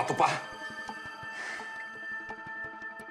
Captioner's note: exhales deeply